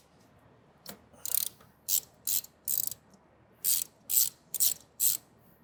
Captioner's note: spanner cranking